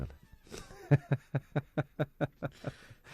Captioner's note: laughter